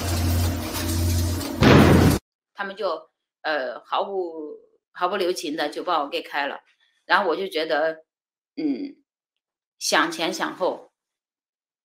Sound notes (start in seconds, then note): 2.7 speaking Chinese language